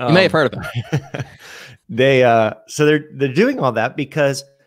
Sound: laughs

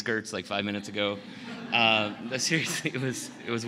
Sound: laughter

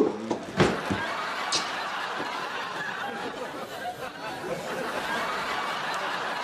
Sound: crowd laughter

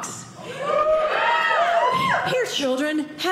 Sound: audience cheering

